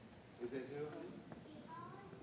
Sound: none

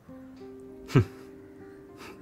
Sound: chuckles

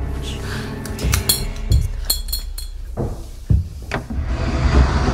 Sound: light bulb clicks

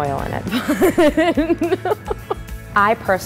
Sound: laughing

